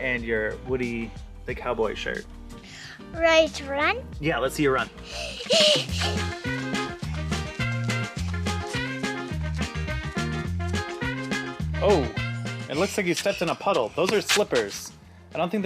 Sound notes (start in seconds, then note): 5.1 giggles; 6.9 upbeat jazz music